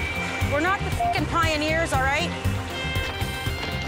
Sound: beeps

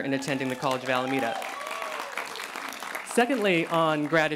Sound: cheering

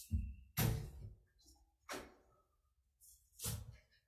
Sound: chair thuds

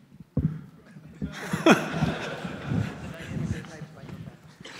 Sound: laughter

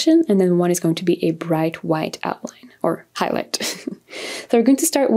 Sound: giggles

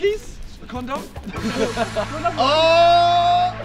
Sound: laughter

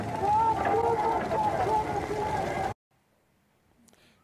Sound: yelling

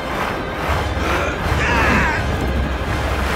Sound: screaming

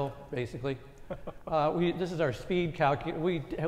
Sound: laugh

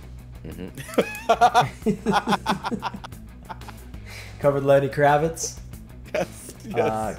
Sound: laugh

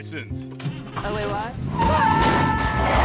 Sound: engine starts

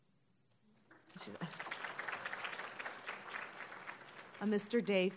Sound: applauding

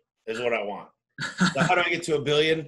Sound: laughs

